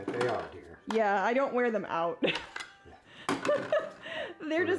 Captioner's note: laughs